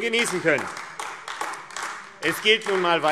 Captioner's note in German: Beifall AfD